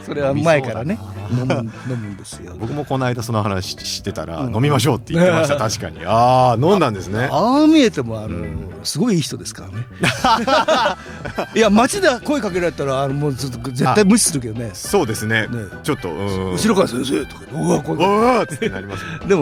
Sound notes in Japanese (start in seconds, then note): 10.0 笑い